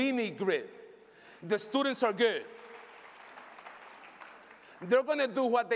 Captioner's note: applause